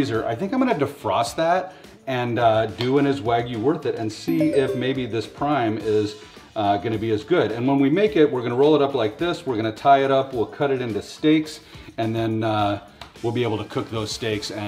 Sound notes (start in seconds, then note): 4.3 message tinkles